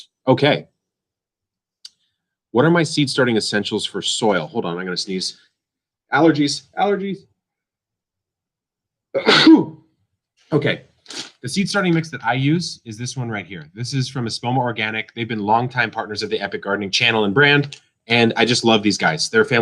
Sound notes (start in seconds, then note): 9.1 sneezes